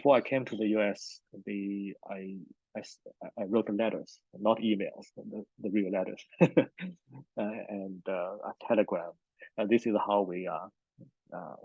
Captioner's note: laughs